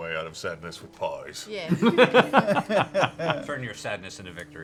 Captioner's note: laughs